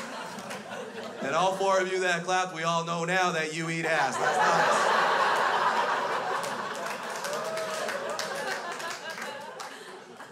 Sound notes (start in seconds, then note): 3.8 crowd laughs; 7.8 crowd applauds; 10.1 crowd laughs